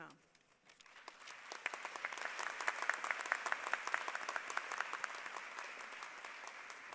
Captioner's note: applause